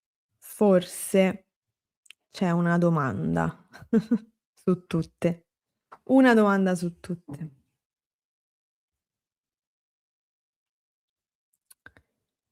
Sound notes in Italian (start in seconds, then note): 3.7 risate